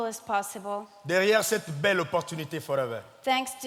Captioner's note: speaking in French